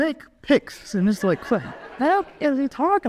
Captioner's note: audience laughs